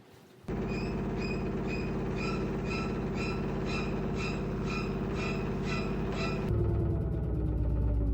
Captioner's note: spooky sound effect as something horrifying appears on screen